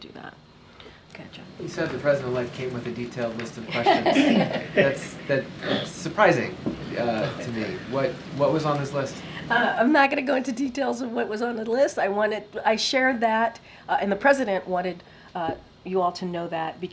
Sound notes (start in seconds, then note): 3.6 laughs